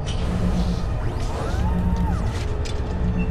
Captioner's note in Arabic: طنين ميكانيكي